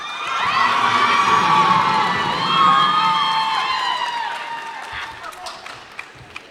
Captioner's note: cheers and applause